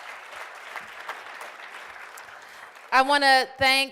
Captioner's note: applause